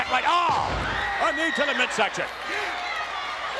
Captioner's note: spectators cheering